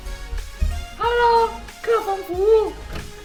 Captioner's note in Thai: ดัดเสียง